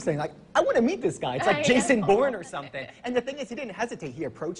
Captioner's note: laughing